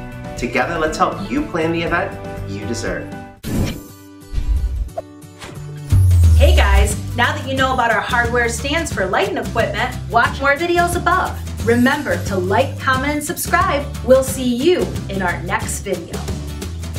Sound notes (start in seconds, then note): 3.4 air whooshing; 3.4 upbeat music